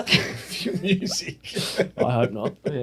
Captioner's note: laughing